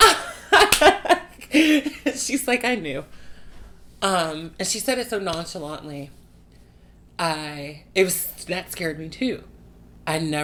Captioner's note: laughs